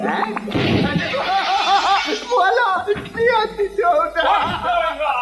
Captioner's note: laughs